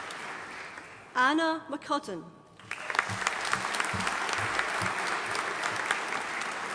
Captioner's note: audience applauding